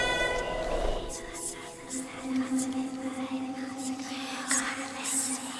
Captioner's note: spirits whispering